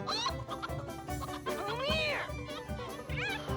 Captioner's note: clucking